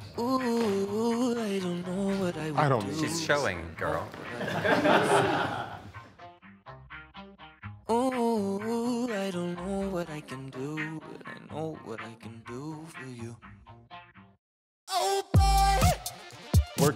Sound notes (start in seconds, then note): 4.1 group chuckling; 5.8 gentle upbeat music